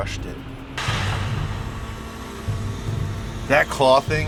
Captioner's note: claw crane whines